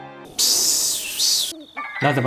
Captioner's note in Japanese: セミの鳴き声